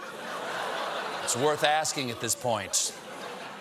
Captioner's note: laughter